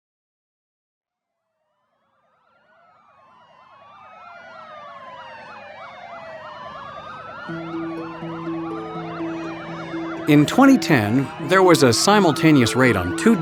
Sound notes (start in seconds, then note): 3.5 sirens wail; 10.7 voiceover